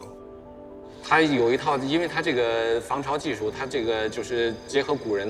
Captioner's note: speaking in foreign language